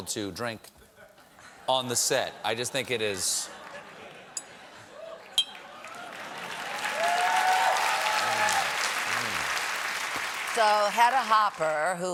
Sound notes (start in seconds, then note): 5.4 clink glasses; 5.5 applause